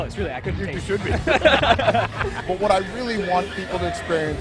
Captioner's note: laughter